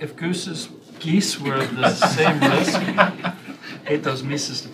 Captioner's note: laughter